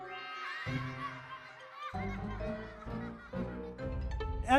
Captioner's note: children laughing